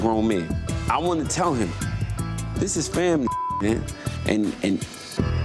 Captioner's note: beep